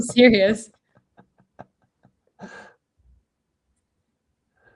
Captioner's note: laughing